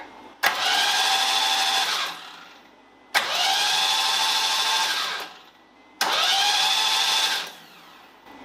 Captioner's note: engine whirring